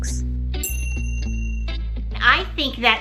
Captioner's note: ding